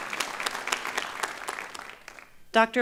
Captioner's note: applause